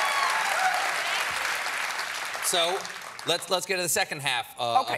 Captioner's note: cheers and applause